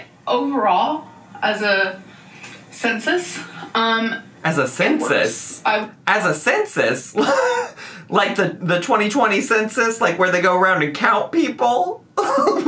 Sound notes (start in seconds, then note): 7.2 chortles; 12.2 laughs